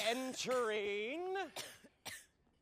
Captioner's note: coughing continues